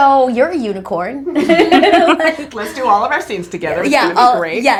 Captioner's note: laughs